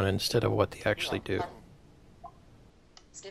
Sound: blip

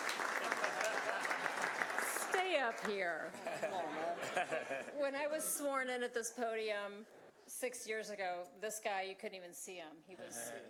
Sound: applause

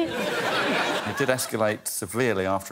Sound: laughter

